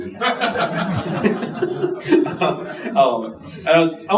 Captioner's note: audience laughing